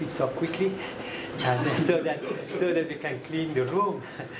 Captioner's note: laughter